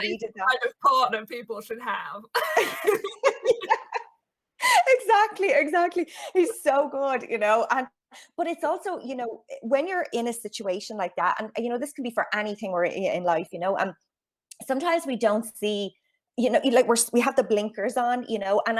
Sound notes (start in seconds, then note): 2.4 laughing